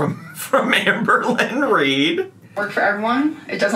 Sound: laughs

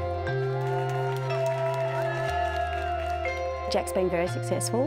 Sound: cheers and applause

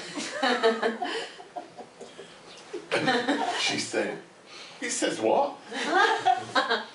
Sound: laughter

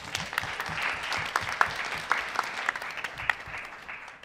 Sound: applause

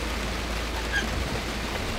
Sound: squeak

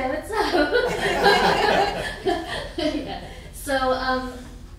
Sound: laughing

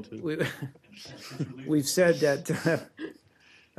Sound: laughter

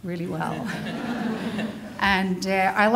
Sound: audience laughing

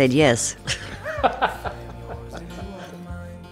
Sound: all laugh

